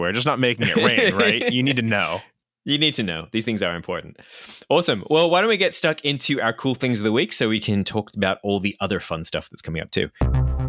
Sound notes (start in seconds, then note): 0.6 laughs; 10.2 electronic music playing